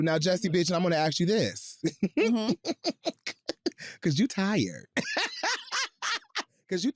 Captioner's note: chuckles; laughs